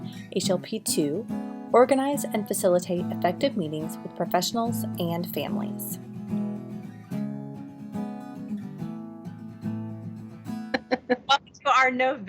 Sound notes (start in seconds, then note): 5.8 laughing